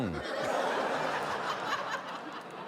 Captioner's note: laughter